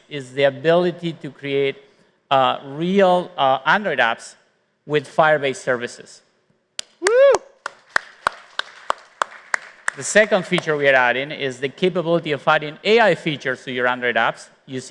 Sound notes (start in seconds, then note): 7.5 applause